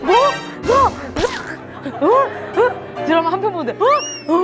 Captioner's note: ugh!